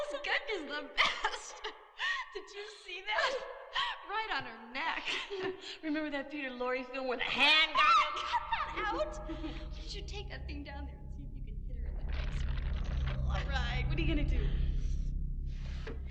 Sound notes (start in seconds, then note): 7.6 Carol screaming; 12.1 stone crunching